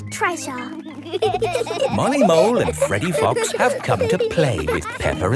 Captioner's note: laughing